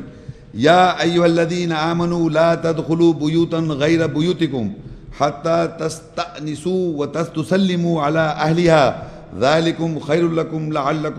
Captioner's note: Arabic